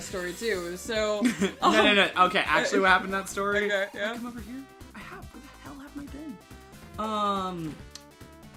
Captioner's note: quietly